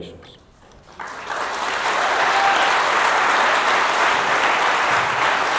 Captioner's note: audience applauding